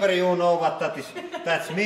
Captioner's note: laughing